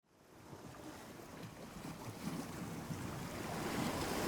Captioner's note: waves crashing